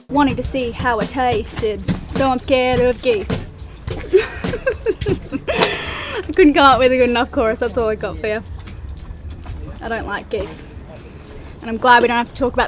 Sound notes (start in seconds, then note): 4.0 laughing